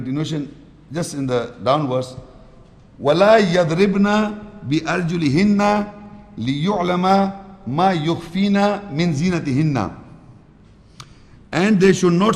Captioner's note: Arabic